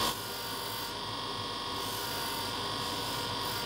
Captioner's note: high grinding noise